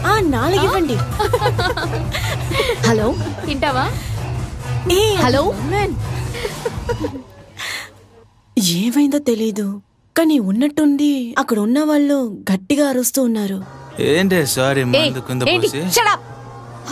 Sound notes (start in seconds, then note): 1.0 phone Ringing